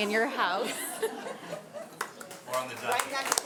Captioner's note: all laughing